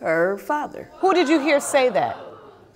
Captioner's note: audience gasp